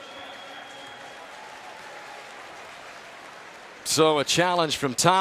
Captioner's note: applause